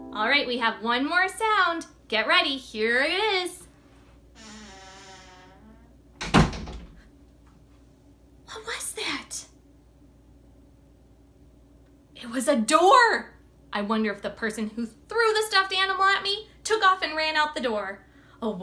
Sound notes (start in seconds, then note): 0.0 gentle ukulele music; 4.3 door creaking; 6.2 door banging